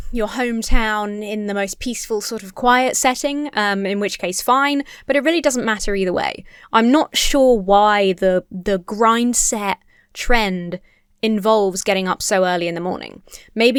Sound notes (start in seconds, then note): none